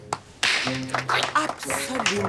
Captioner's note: applause